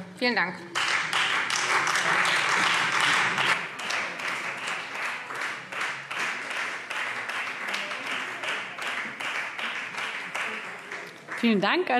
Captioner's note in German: Beifall Freie Demokraten